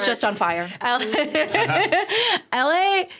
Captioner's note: laughing